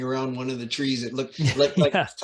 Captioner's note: chuckling